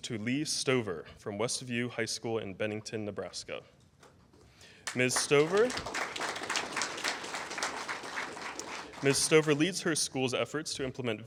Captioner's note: applause